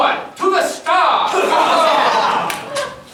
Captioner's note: cheering